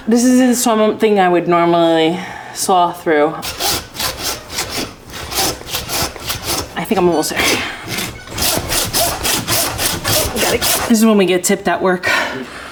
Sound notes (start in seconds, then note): 3.4 saw scraping